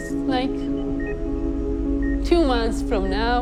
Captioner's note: machine beeps